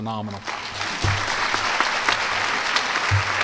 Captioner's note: applause